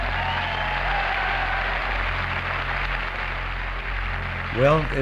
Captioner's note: applause